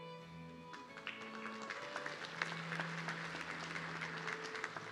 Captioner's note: audience clapping